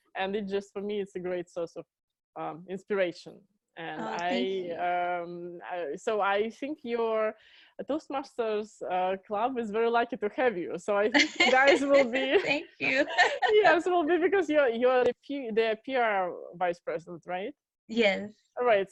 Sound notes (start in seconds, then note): 11.1 laughing